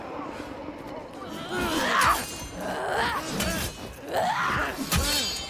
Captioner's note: grunting